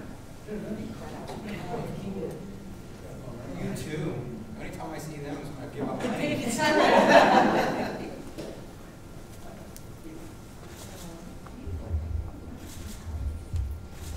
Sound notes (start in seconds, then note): 1.1 mumbling, laughing; 6.1 audience laughing